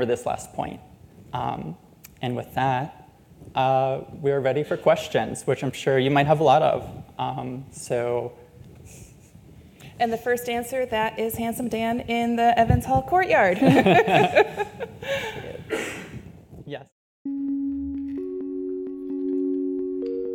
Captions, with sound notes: this last point. And with that, we are ready for questions, which I'm sure you might have a lot of! - And the first answer that is Handsome Dan in the Evans Hall Courtyard (laughs). (musical chimes)